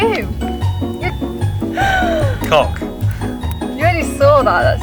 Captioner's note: laughing